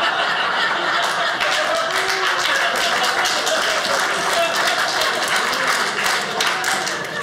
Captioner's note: audience laughing; audience cheering